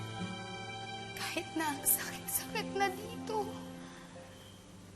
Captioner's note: voice breaking